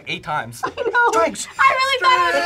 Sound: laughs

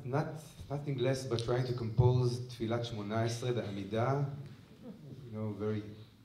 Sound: speaking hebrew

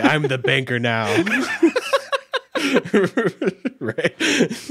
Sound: laughing

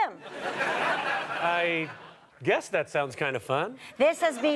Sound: audience laughter

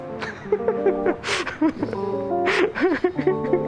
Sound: laughs

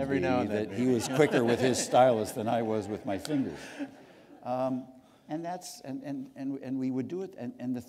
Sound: laughter

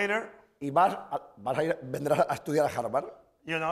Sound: speaking spanish

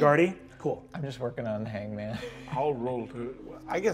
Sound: laughs

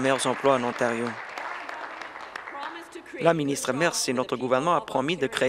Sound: applause

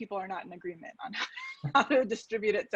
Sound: laughs

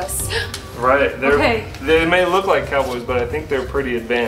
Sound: girl gasps

